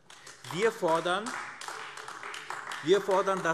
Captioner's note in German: Beifall AfD